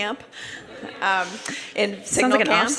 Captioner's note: laughter